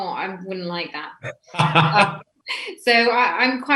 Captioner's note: laughs loudly